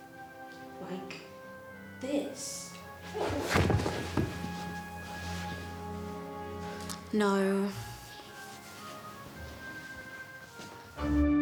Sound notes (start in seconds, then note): 3.0 body thudding